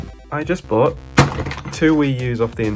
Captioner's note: crash